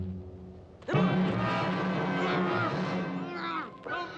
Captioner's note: muffled cries; muffled cries continue